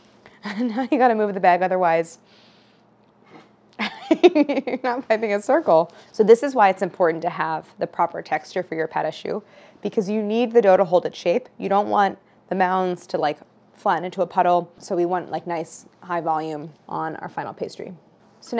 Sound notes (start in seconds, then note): 0.7 laughs